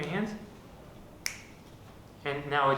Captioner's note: fingers snap